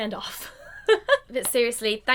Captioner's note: laughs